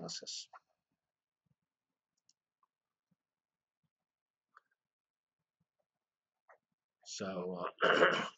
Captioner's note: pause